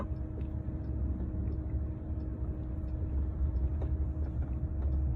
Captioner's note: turn signal clicking